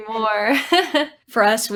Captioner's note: chuckling